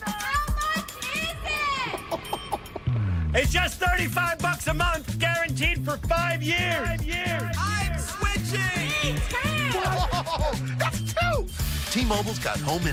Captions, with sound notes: How much is it? [chuckles] It's just $35 a month guaranteed for five years! ┘ I'm switching! ┘ Me too! Whoa... That's two!!